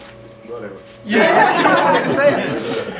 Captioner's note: laughter